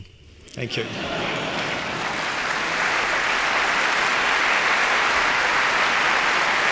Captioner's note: applause